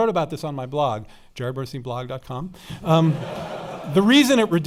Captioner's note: laughing